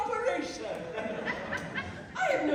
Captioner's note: laughter